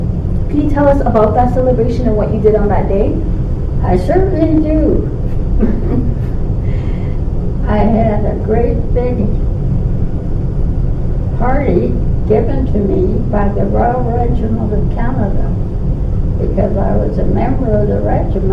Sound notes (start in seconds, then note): 5.5 laughter